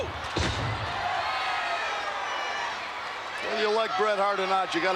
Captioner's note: spectators cheering